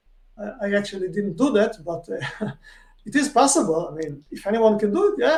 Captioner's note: chuckles